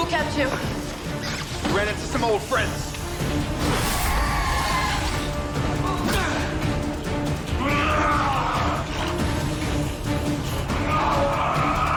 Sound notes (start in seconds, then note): 6.0 dramatic suspenseful music; 6.0 fighters grunting